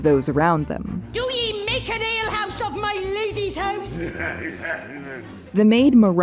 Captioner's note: very drunken laughter